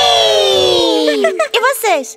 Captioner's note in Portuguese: Risos